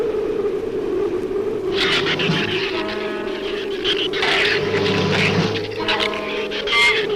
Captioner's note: shrew chatter; ominous orchestral music